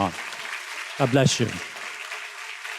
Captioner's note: students claps